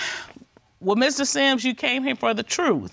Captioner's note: sighs